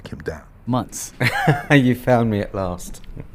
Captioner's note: laughs